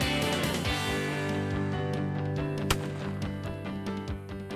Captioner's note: multiple gun shots